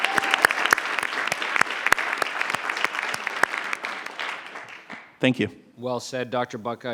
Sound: applause

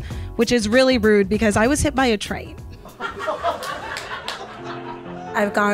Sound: audience laughs

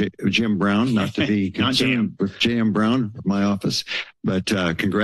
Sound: laughs

